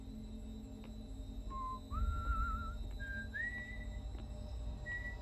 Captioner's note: whistling